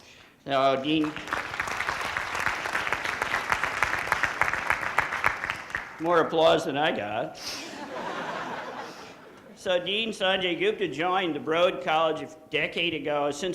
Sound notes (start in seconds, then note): 0.9 audience applauding; 7.5 audience laughing